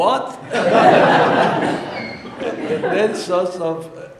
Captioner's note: audience laughing